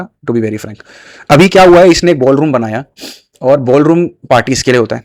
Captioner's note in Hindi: नाक से की जाने वाली आवाज़